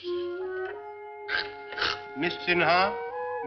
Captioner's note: chuckles; grunts